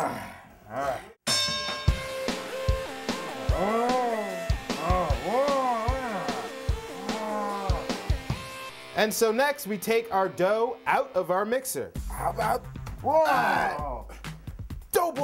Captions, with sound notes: - [grunting] ding! [grunting] OUR DOUGH OUT OF OUR MIXER. HOW ABOUT THAT?